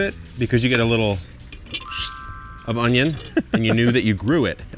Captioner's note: digital shimmering